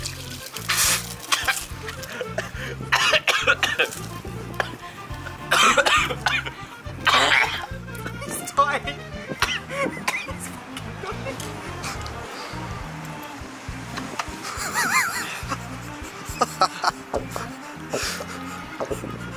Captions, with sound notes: (Violent coughing fit) He's dying! He's f*cking dying! (Camera man laughing) (Gulping of "The Milk")